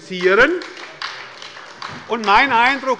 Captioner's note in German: Beifall bei der SPD